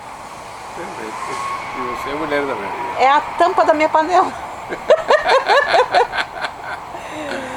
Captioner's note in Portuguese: risos